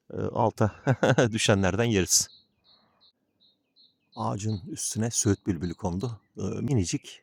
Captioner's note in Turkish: kahkaha